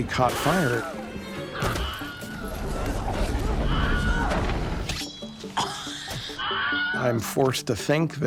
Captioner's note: Wilhelm Scream plays repeatedly